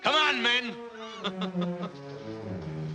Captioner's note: laughs